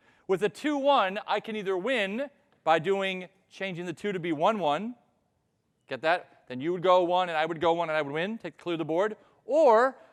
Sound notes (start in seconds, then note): none